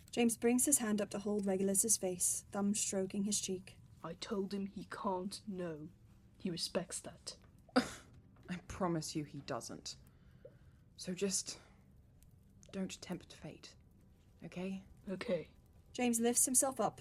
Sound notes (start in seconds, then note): 7.7 Regulus scoffs